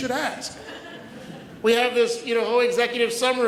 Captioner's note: audience laughs